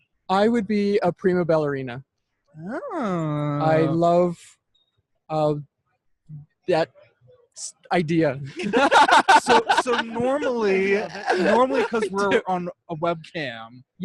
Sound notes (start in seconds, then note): 8.5 laughing